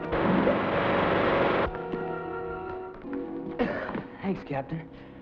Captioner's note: vibration buzzes